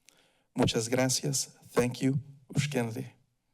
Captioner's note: foreign language